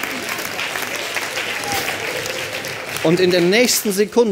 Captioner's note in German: Klatschen